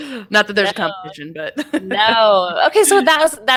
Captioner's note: laughs